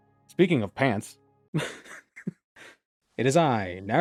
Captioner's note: chuckling